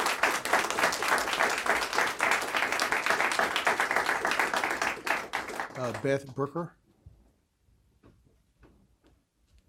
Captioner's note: applause